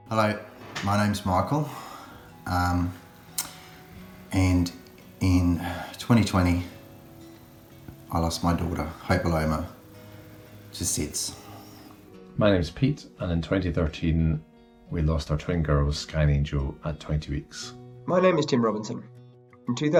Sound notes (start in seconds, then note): 11.6 sighing